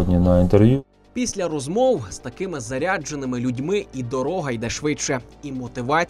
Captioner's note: voiceover